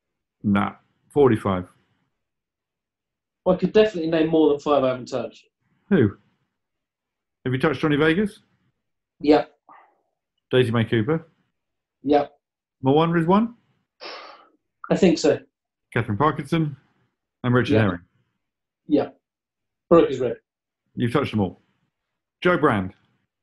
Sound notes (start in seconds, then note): 13.9 sighs